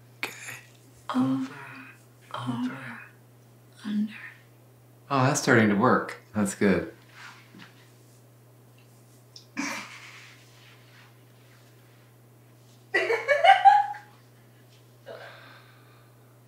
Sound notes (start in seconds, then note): 12.9 laughing from other room